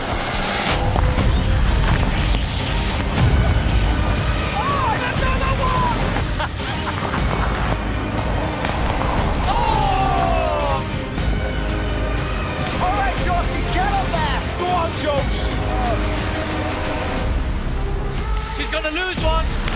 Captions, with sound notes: Oh and anohter one! [LAUGHS] Ooohhh! All right, Joise get up there! Go on, Jose! She’s gonna lose one.